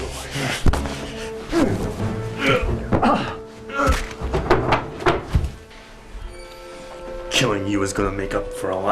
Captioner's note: fight noises